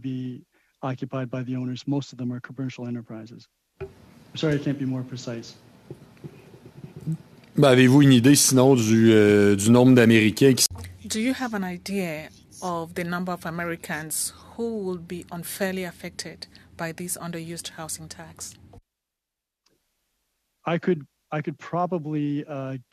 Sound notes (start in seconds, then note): 11.7 speaking French